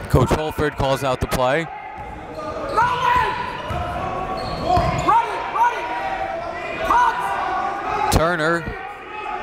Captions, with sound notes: (cheering and yelling) Coach Holford calls out the play. (coaches yelling) Turner.